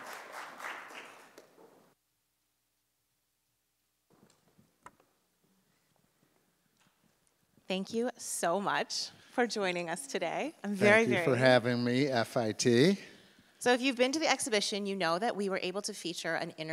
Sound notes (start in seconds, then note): 0.0 applause fades; 4.2 mic cliks